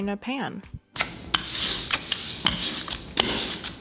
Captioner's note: sizzling sound